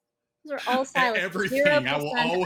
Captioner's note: laughs